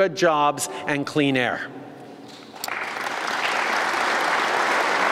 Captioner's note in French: Applaudissements